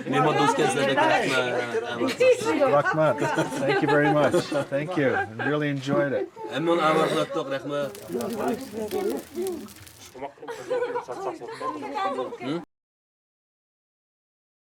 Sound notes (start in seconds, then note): 0.2 translator speaking in foreign language; 6.7 translator speaking in foreign language; 7.8 indistinct chattering